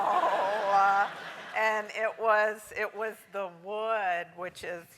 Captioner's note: laugh